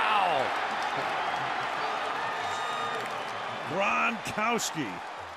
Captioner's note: cheering